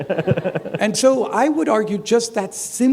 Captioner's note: chuckle